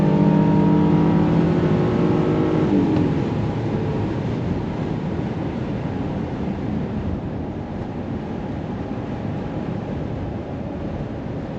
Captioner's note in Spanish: Sonido del Motor